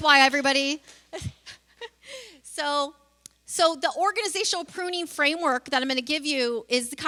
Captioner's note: laughs